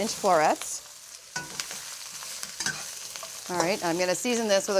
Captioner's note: sizzling